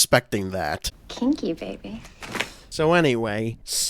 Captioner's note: liquid sloshing